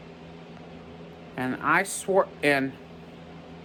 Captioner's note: stammers